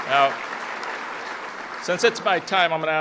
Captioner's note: applause